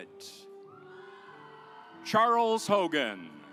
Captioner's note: audience applauds